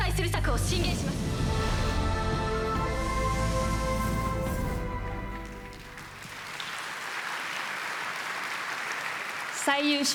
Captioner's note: applause